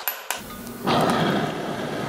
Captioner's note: hissing